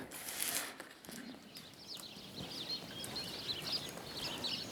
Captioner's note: birds chirping